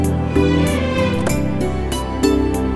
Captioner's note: Car door opens